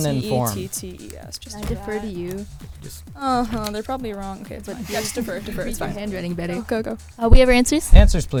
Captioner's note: whispering